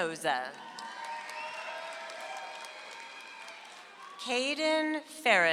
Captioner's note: audience applauds